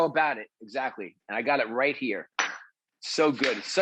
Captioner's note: glass jar clinks